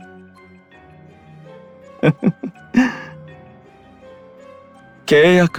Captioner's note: laugh